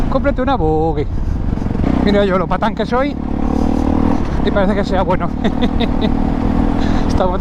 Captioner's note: laughs